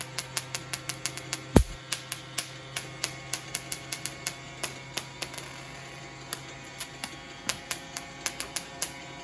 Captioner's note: jedi noises